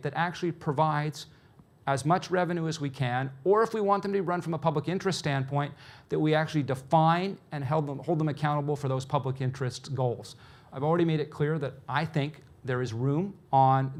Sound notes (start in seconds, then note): none